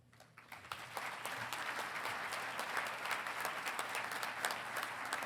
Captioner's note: congregation clapping